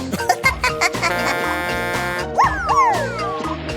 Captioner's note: giggling; honking